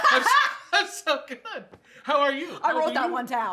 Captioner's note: laughter